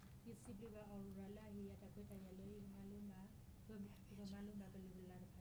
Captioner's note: speaking in foreign language